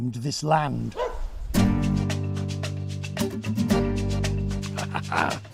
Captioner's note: dog barks; laughs